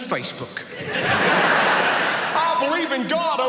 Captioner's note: audience laughs